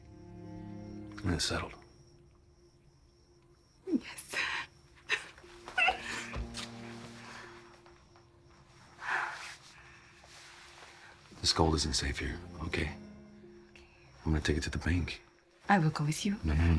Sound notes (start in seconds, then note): 5.0 giggles